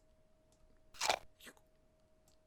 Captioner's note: apple munching sound